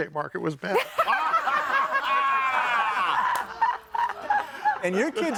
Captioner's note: audience laughing